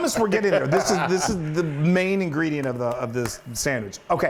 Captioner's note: laugh